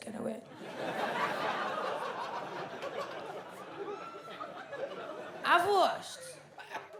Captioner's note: audience laughs